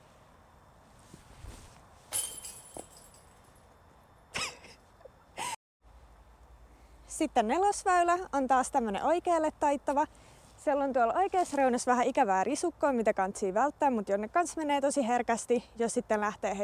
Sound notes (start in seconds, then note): 4.0 laughs